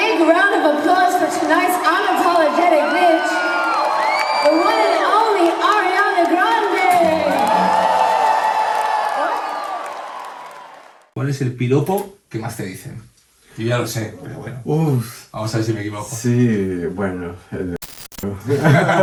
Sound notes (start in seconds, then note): 7.9 applause